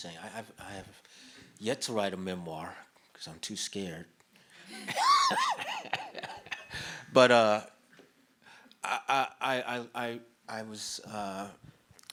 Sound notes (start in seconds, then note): 4.7 laughs